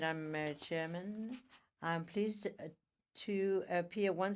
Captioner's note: speaking french